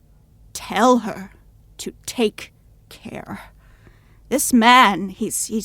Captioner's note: voice grave